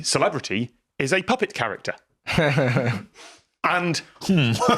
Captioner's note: laughs